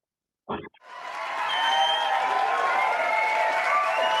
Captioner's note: audience applauds